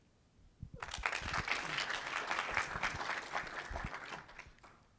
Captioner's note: audience applauding